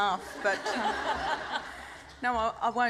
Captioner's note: laughter